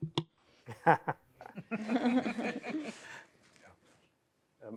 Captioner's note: laughter